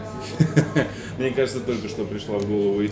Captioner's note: laughs